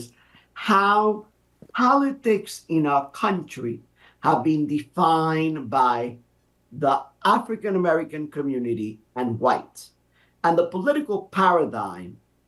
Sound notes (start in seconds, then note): none